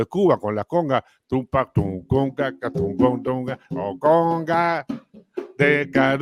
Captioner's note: Canturrea